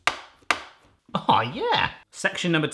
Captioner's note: knife bangs